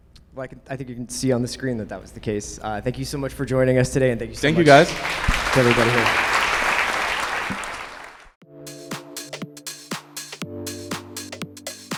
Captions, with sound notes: - Well, I think you can see on the screen that that was the case. Thank you so much for joining us today and thank you so much- - Thank you guys! - To everybody here. (audience clapping) (upbeat music)